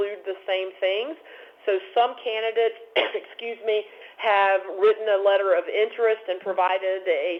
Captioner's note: cough